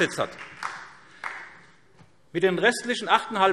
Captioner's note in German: Beifall SPD